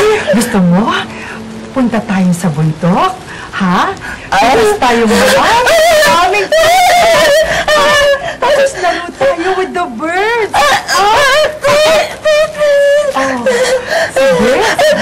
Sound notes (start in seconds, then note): 7.1 shrieking